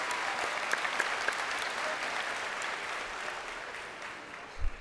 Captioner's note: crowd cheering